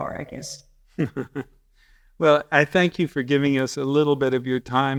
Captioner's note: chuckles